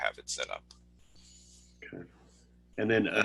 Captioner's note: silence